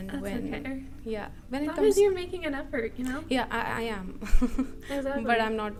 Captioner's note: laughter